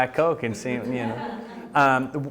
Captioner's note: audience laughing